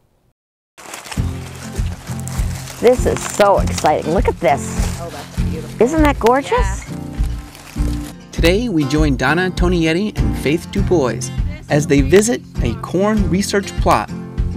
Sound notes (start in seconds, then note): 0.8 leaves rustling; 0.9 upbeat music